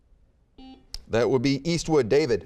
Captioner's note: buzzer beeping